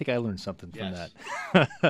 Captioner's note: laughs